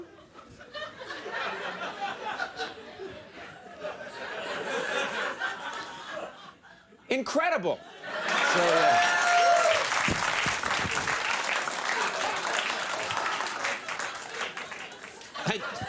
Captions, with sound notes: (audience laughing) Incredible. (audience applauding)